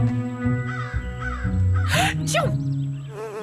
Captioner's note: sneezes; buzzing